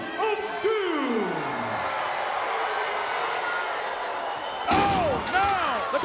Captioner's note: crowd booing